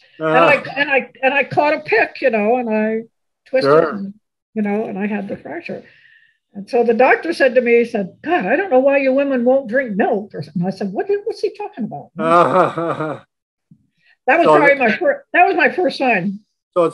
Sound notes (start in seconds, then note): 12.2 laughs